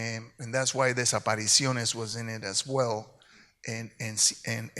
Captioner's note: speaks in Spanish; speaks in Spanish